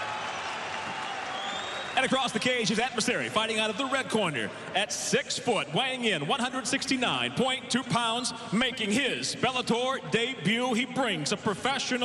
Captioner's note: cheers and applause